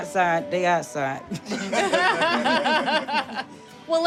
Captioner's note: laughing